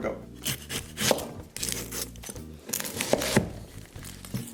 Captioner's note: onions chopping